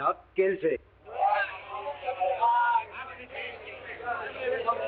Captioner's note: people chattering